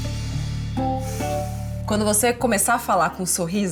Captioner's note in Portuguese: suspira